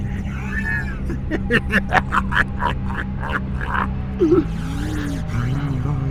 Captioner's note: The Yellow Rabbit sinisterly laughs